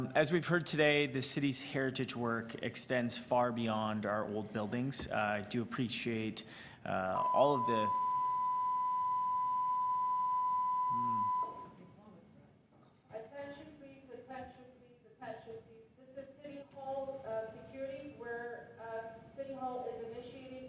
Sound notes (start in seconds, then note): 7.1 beeping; 10.7 announcement on the PA system